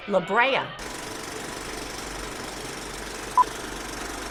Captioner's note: movie reel clicks